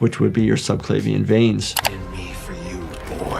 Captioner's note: screen clicking